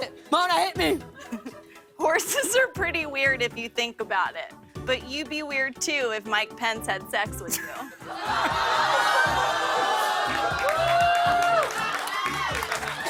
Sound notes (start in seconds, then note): 7.1 audience ohs; 9.7 cheers and applause